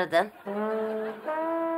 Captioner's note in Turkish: Gülme efekti